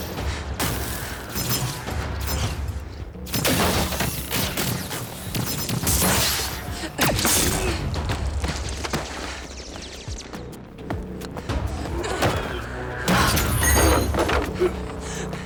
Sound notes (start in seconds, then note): 3.4 lasers crackling; 6.5 paint splattering; 9.6 gun firing; 11.6 grunting